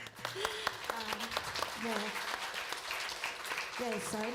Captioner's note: applause; laughter